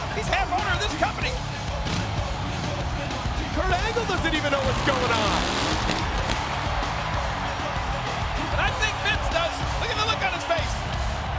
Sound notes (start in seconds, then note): 5.8 engine revving; 6.7 crowd cheering